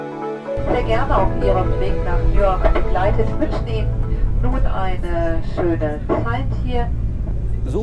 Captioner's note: cabin announcement